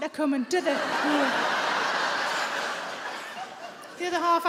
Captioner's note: audience laughing